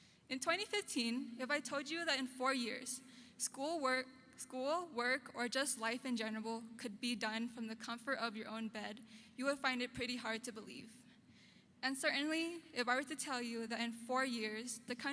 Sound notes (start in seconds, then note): none